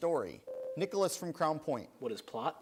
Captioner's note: buzzer sounds